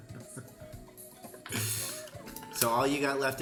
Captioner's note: laughter